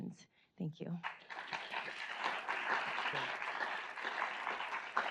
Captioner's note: audience applauds